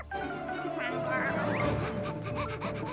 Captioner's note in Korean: 가쁜 호흡